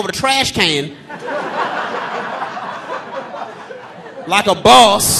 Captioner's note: audience laughing